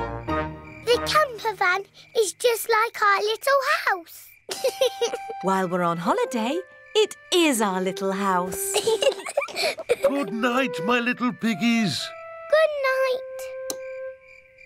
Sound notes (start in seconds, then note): 4.5 george laughs; 8.4 both laugh